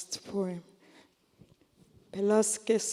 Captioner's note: speaking korean